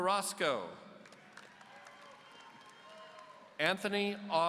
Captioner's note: audience cheering